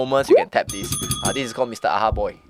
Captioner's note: ring Ring